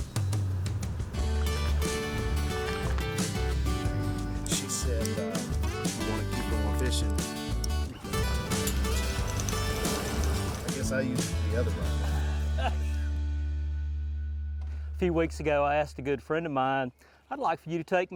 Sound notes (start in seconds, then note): 0.1 bright music; 11.7 laughs